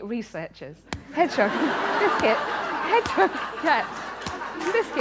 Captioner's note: laughter